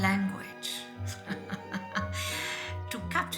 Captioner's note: chuckling